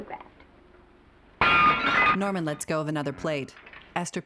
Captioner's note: plate breaking